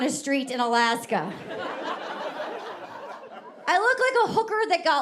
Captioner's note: audience laughing